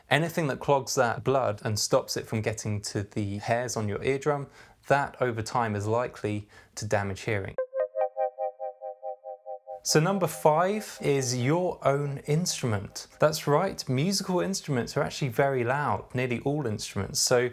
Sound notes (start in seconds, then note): 8.0 electronic tones